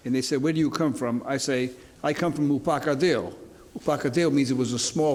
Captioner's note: speaks in foreign language; speaks in a foreign language